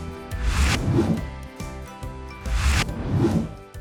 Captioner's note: upbeat music continues; title whooshes; title whooshes